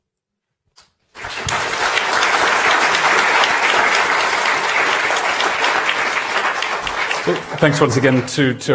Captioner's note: applause